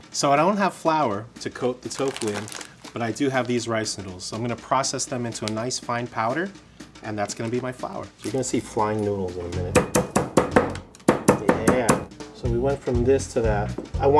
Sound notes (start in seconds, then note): 9.7 mortar banging